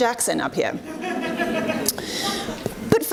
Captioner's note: audience laughs